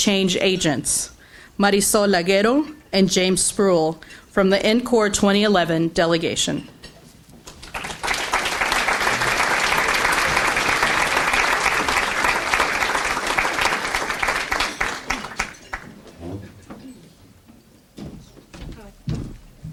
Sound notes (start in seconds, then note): 7.5 audience applauds